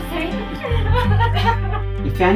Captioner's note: sobs